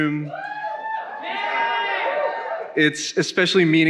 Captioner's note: attendees cheering